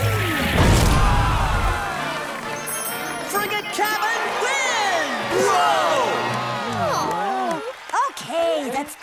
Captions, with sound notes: [thudding] Frigate cabin wins! Whoa! [groaning] Okay, that's two,